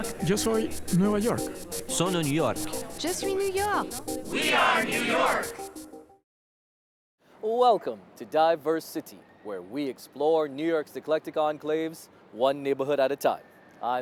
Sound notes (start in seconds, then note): 1.4 Spanish; 3.9 French